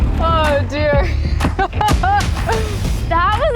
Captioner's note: Emelia laughs